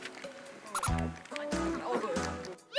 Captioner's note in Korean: 낑낑 / 낑낑